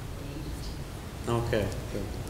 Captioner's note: woman murmurs